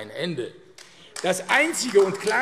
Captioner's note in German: Beifall AfD